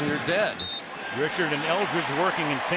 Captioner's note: whistle